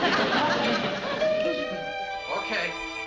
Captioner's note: doorbell ringing